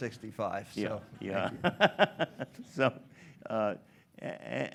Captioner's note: laughs